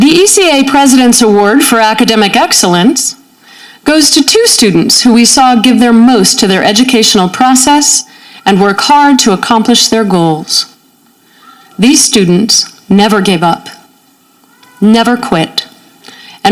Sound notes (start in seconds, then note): none